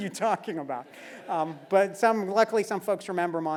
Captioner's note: laugh